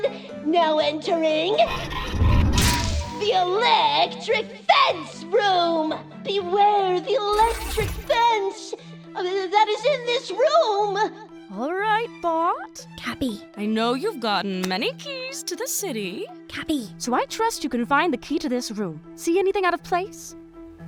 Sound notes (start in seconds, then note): 12.8 whispering; 16.3 whispering